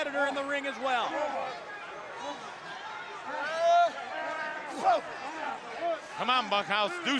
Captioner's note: crowd chatter